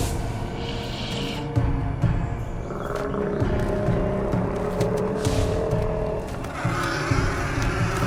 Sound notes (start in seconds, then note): 1.4 ominous music plays; 2.6 growls